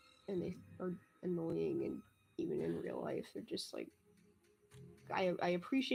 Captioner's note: none